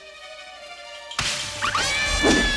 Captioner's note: branches breaking; ladies screaming